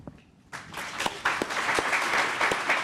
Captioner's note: applause